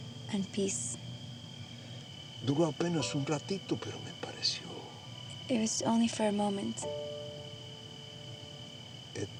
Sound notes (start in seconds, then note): 0.0 spanish; 3.3 speaking spanish; 9.1 spanish